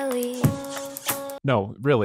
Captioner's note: smooch sound